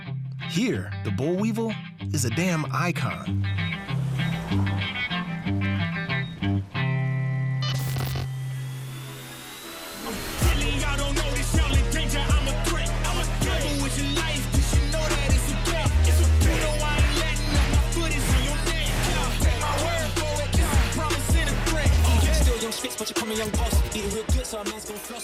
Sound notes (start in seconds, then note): 3.2 folk music; 7.6 record scratch; 9.0 hip hop music